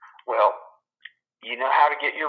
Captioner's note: on phone